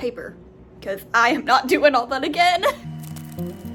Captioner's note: laughing